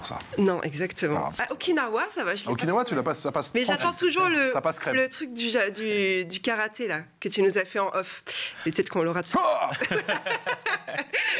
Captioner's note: laughs